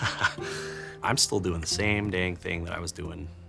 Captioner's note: chuckles